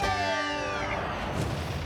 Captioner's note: siren wailing